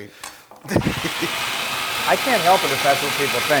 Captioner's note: laugh